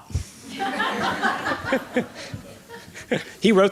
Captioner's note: laughter